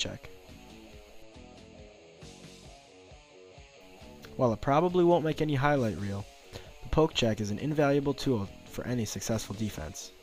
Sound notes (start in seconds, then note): 3.0 pause